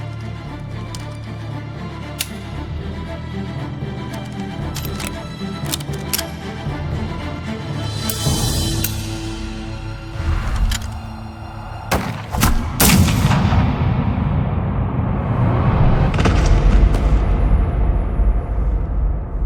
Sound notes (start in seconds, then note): 11.9 gunshot blasts; 14.8 body thuds